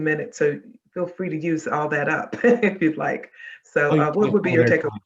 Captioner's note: chuckling